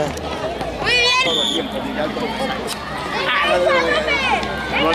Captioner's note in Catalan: Xiulet